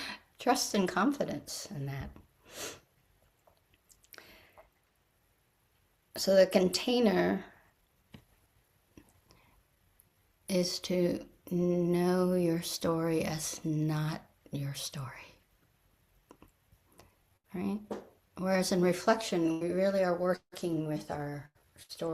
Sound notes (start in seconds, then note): 3.0 pause